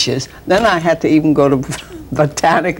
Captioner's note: chuckles